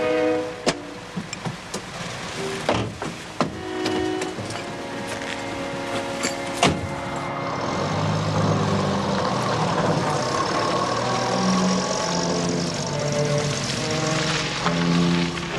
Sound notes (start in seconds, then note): 3.4 door opens; 6.5 door closes